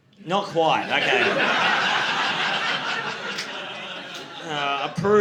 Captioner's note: audience laughing